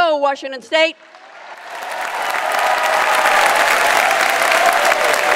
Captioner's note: audience applauds